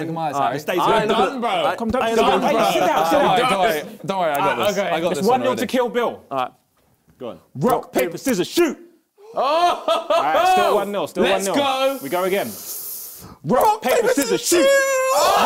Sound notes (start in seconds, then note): 0.2 crowd mumbling; 9.3 man laughing